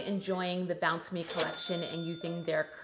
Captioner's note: bell dinging